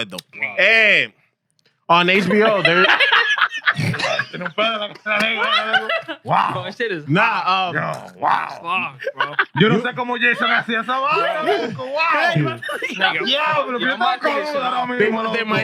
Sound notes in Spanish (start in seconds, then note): 0.1 Hablando en idioma extranjero; 0.1 Riendo; 9.6 Hablando en idioma extranjero; 11.1 Música alegre; 11.1 Risas